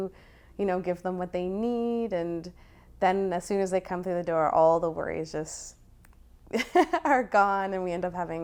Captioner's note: laughter